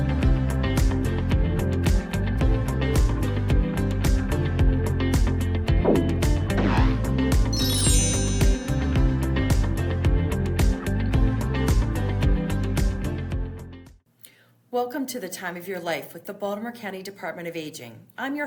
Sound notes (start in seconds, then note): 5.8 graphic whooshing; 7.4 bright music